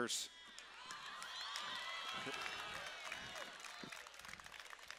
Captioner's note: cheering